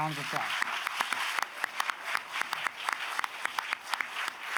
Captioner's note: audience applauds